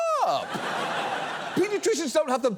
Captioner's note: audience laughing